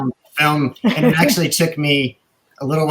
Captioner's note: laughing